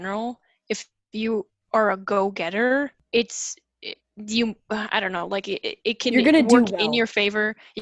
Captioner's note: stammers like a noob